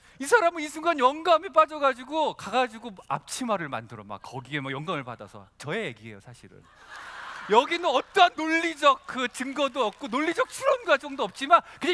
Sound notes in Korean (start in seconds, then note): 6.6 웃음